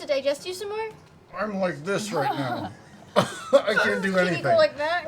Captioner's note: strained